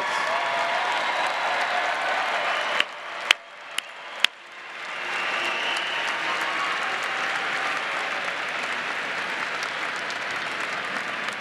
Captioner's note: applause